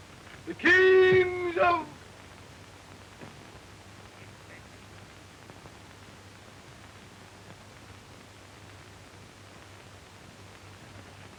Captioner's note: bellowing